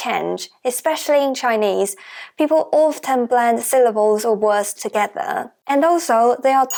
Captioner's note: Mandarin